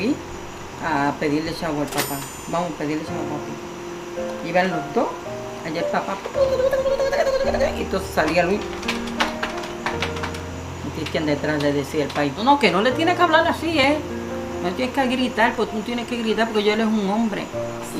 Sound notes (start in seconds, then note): 6.2 arguing sounds; 8.0 walking sound